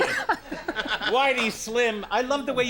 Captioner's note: Conan laughs